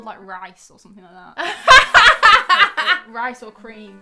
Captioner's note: laughing